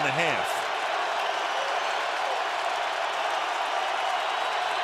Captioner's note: crowd cheering